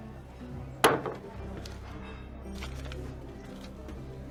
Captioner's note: glass clanking